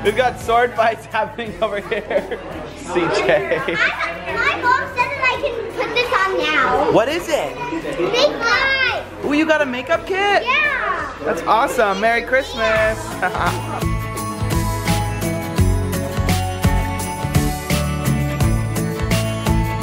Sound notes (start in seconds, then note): 13.0 laughs; 14.8 bright music